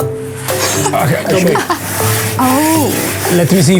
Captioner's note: laughs